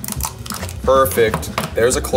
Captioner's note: shell cracks